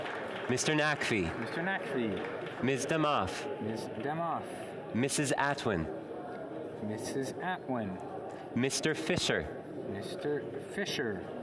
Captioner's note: calling of recorded vote